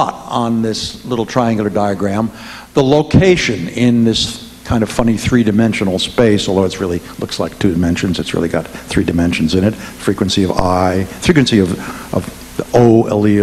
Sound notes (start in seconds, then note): none